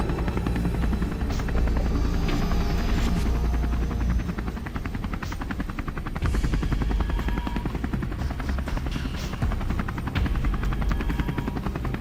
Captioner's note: Godzilla sounds